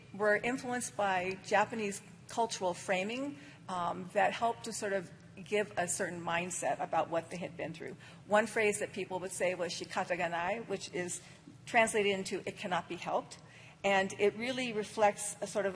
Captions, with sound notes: JAPANESE CULTURAL FRAMING THAT HELPED TO SORT OF GIVE A CERTAIN MINDSET ABOUT WHAT THEY HAD BEEN THROUGH. ONE PHRASE PEOPLE WOULD SAY IS [ SPEAKING JAPANESE ] TRANSLATED INTO IT CANNOT BE HELPED.